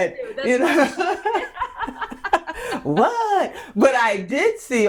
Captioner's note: laughing